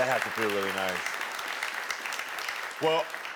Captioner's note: audience clapping